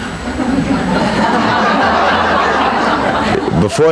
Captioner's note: people laughing